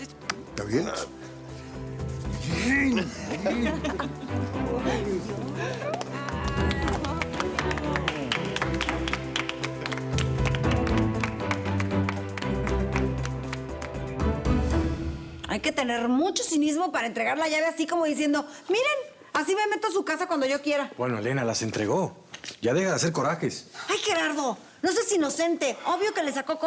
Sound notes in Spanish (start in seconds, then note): 4.7 risas; 12.2 aplausos